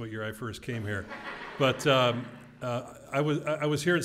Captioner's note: laugh